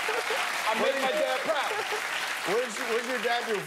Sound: cheers and applause

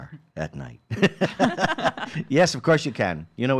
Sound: laughing

